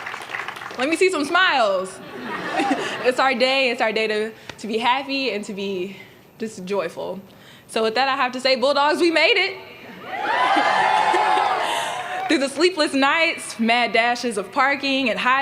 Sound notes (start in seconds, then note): 2.0 laughter